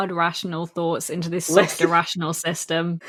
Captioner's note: laughing